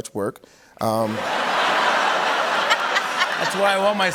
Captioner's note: laughter